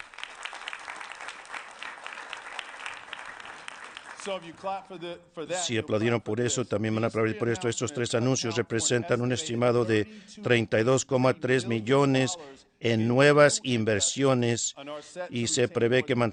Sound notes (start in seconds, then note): 2.9 applause